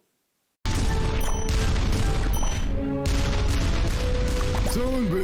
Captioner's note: cannon balls banging